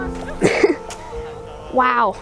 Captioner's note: laughs